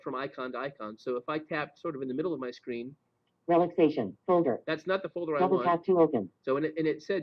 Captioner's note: Siri talking